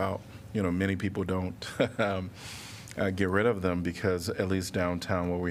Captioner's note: laughter